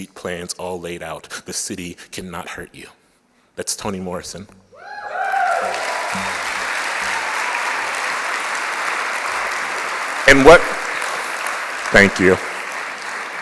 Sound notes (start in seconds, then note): 5.1 applause